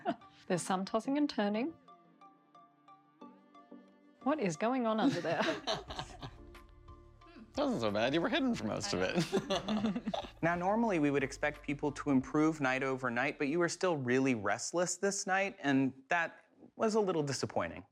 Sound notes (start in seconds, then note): 0.0 laughter; 5.0 laughter